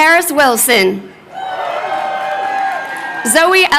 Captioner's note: crowd cheering